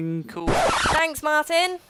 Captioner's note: record scratch